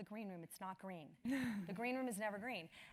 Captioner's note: laugh